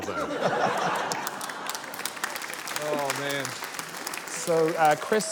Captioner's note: laughter, applause